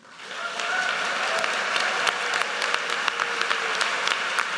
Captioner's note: audience cheers and applauds